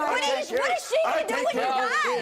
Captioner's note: yelling and arguing